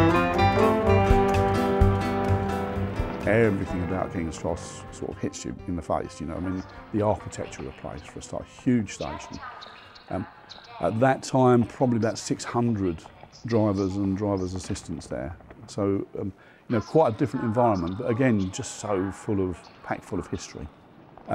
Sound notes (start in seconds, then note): 0.3 traffic buzzing; 9.7 announcer speaking